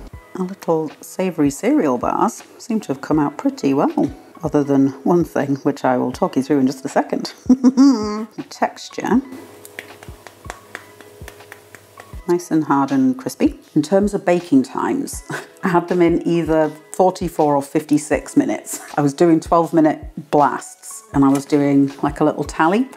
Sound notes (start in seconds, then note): 7.4 sarcastic laugh; 12.3 tap tap tap; 15.5 laugh